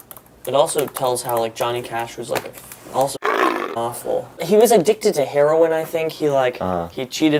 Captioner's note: tiger grown